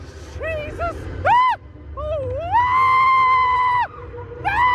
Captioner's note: screams